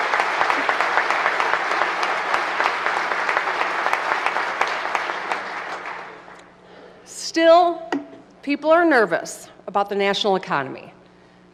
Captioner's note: applause